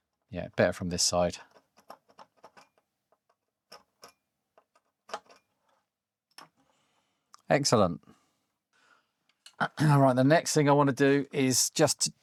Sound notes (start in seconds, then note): 1.2 silence